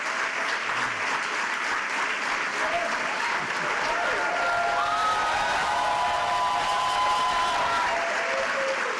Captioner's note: cheers and applause